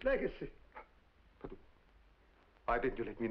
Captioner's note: mumbles